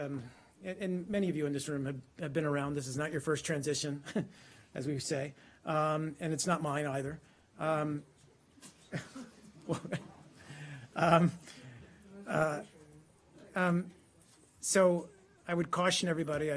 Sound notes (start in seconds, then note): 11.2 laughter